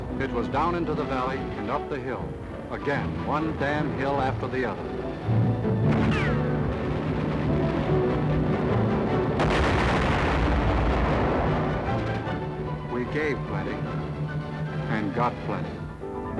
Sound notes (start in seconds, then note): 5.3 booming; 5.8 guns firing